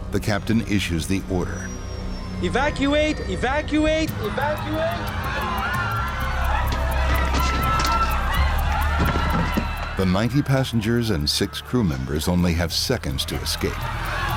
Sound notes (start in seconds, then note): 5.4 passengers screaming; 6.6 clattering; 12.9 passengers screaming; 14.2 sinister music